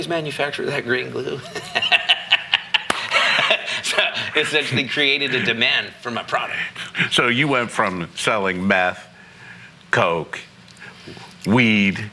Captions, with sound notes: manufacture that green glue?" (laughing) It's essentially created a demand for my product. So you went from selling meth, coke, weed